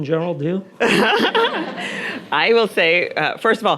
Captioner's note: Nadine laughing; audience laughing